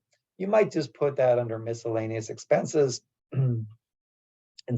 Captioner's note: cough